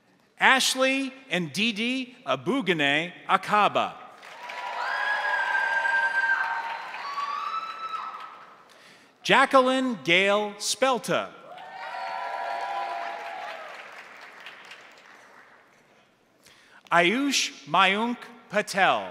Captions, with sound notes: Ashley Endidi Abugene Acaba. (crowd applauding) (crowd cheering) Jacqueline Gail Spelter. (crowd applauding) (crowd cheering) Ajush Majunk Patel.